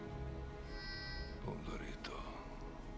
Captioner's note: exhales